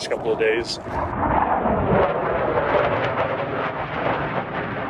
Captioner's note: jets roaring